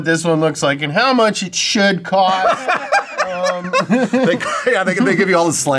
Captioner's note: laughs loudly